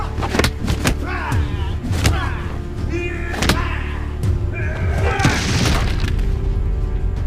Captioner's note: coat rustling; fists thudding; men groaning